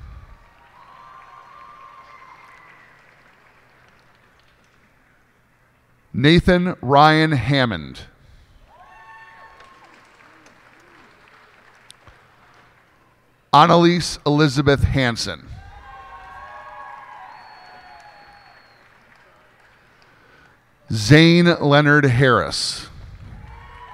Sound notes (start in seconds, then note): 0.3 cheers and applause; 8.7 cheers and applause; 15.6 cheers and applause; 23.2 cheers and applause